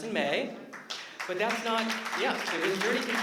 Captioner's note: applause